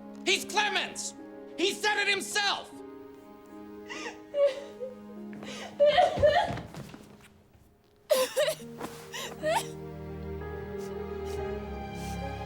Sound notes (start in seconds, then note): 5.4 Eliza crying; 9.1 gentle moving music